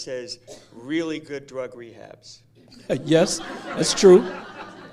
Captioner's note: laughter